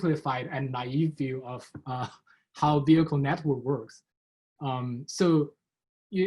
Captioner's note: chuckles